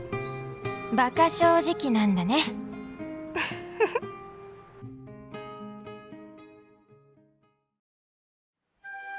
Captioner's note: laughs